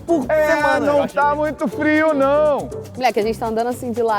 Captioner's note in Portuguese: falando com eco